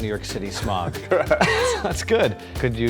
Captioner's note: chuckling